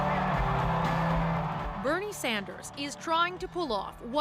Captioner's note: cheers and Applause